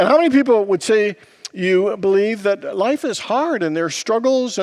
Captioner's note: none